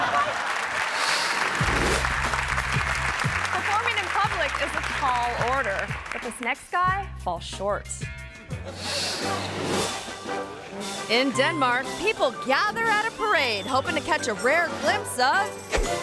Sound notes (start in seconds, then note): 0.0 audience laughing and clapping; 8.7 audience laughing; 15.7 majestic music